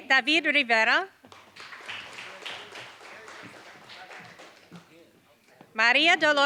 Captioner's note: applause